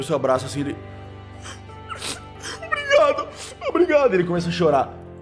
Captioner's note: crying